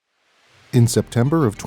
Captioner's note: sound: water rushing